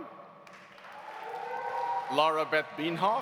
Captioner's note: audience applauding; audience cheering